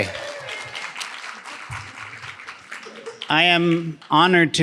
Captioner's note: audience applauding